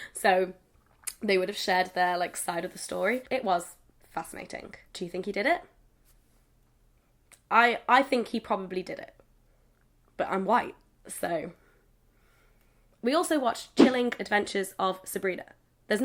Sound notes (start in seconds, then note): none